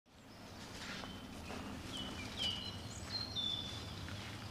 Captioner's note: birds singing